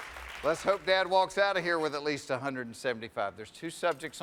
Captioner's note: cheers and applause